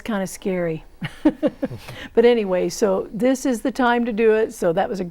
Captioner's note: laughing